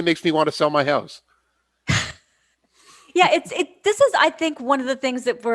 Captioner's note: laughs